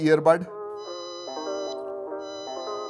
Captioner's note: beeps